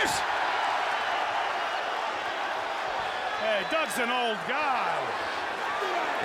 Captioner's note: applause